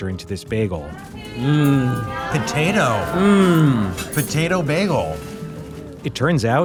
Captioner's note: groans